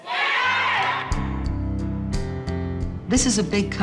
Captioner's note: crowd